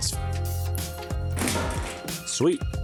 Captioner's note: objects landing